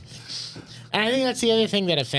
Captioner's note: laughing